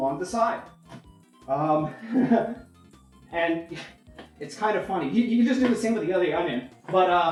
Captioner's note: laughs nervously